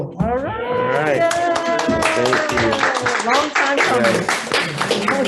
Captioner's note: group clapping and cheering